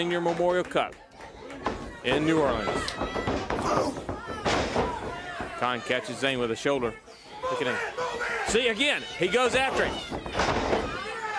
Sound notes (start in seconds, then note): 2.2 crowd chatter